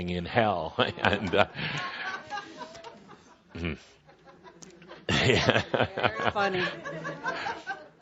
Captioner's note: some laughter as says, “Very funny.”